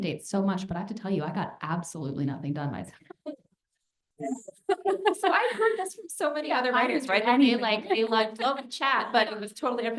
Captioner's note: laughter